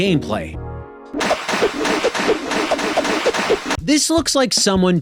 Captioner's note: whipping and splashing